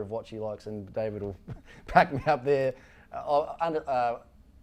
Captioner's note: giggles